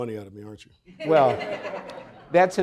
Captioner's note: audience chuckling